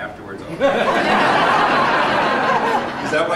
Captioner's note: laughter